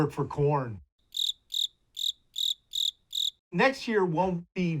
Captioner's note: cricket chirping